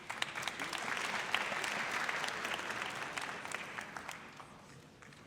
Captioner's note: audience applauds